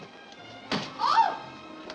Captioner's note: door slams